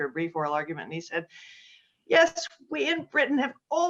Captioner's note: british accent